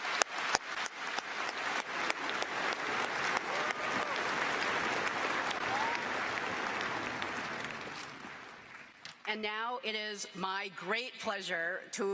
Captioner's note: applause